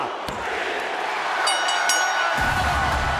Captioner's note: crowd cheering; hand pounding; bell dinging; dramatic music